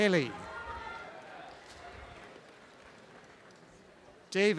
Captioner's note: applause and cheering